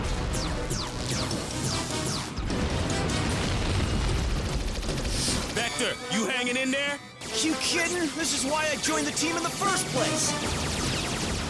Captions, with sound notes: (WEAPONS FIRE, SUCCESSIVE EXPLOSIONS) (RAPID FIRE) VECTOR? YOU HANGIN' IN THERE? YOU KIDDIN'? THIS IS WHY I JOINED THE TEAM IN THE FIRST PLACE!